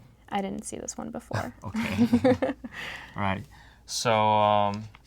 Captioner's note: laugh